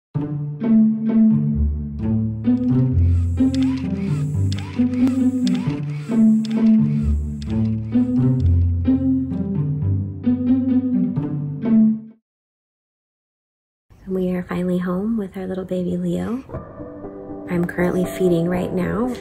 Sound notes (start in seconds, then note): 0.0 bouncy music; 2.6 pump whirring